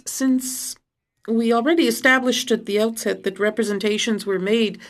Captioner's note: speaking in French